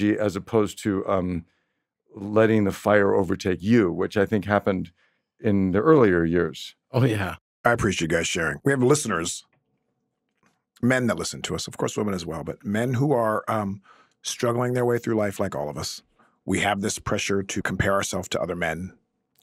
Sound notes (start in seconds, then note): none